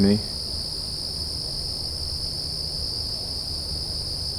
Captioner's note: crickets chirping